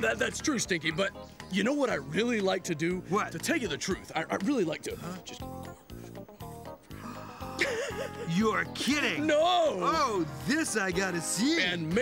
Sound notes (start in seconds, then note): 7.0 Jake laughing; 7.1 whispers